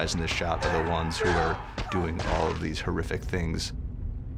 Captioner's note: grunting